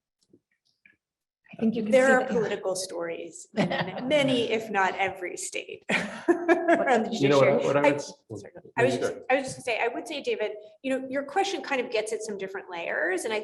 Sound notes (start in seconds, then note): 6.3 panel chuckling and chattering indistinctly